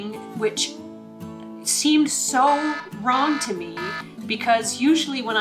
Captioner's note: alarm buzzes